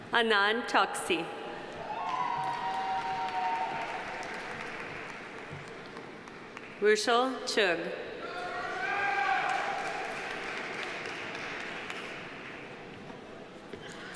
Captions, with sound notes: Anand Chouksey. (audience applauding) (audience cheering) Rushil Chugh. (audience applauding) (audience cheering)